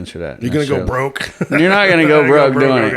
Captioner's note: laughs